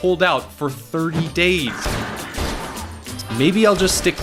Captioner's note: gunshots